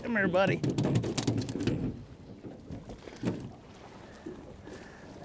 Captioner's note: fish flopping